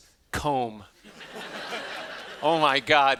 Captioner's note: laughing